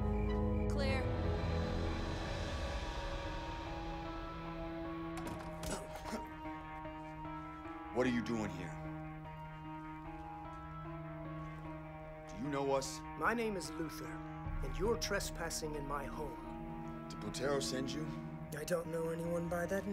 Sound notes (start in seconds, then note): 4.6 man grunts; 5.1 door clicks